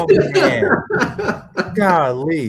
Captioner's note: laughter